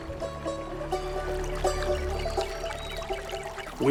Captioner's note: stream trickles